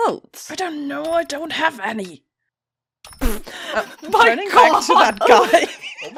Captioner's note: through his teeth